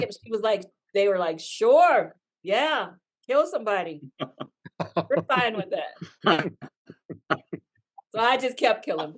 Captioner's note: laugh